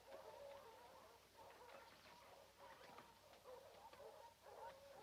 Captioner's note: dogs barking continues